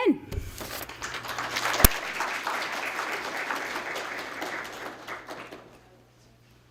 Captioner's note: applause